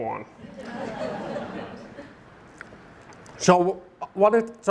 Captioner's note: audience laughing